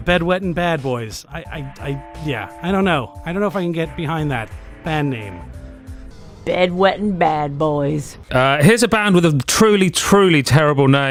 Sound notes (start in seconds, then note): 7.5 cowboy accent